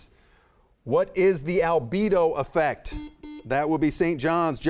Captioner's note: buzzer buzzing